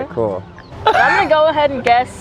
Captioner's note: laughs